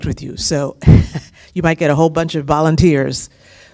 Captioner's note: laughter